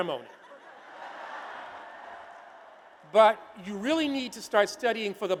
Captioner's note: laughter